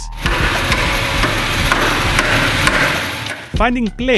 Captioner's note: sounds of metal on metal love